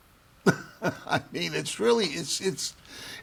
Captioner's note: laughs